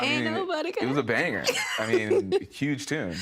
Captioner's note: laughing